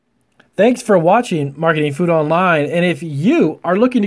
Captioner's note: male Voice